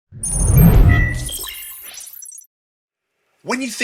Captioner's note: logo whooshing; electronic beeping